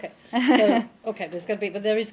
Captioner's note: laughter